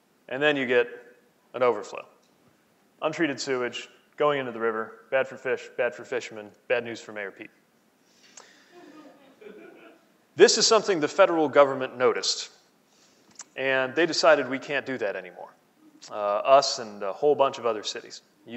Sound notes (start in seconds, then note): 8.7 laughing